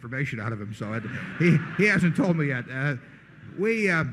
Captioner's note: laughter